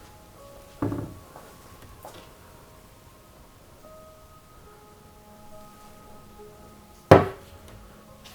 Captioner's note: opening and closing a cabinet